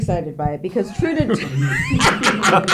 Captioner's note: laughing